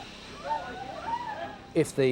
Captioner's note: bystanders clamoring